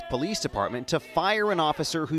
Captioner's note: crowd chanting